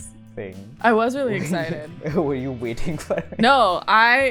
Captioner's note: laughs